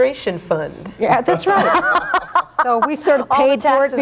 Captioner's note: all laughing